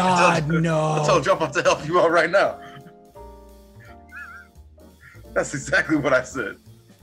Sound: laugh

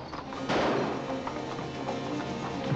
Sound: suspenseful music; gunshot; suspenseful music

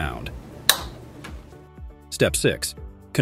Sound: adapter clicks

